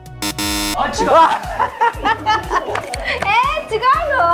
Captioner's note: laughs